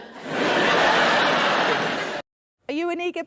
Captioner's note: audience laughing